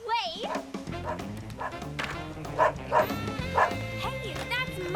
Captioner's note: lively rock and roll music; jumpy barking